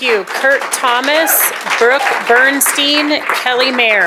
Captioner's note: applause